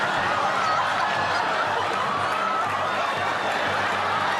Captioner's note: laughter